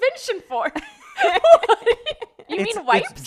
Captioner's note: laughing